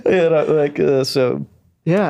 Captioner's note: laughing